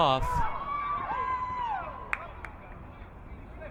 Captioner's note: crowd cheering